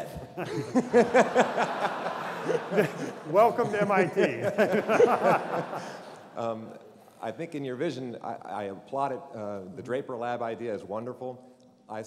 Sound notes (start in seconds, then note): 0.2 laughter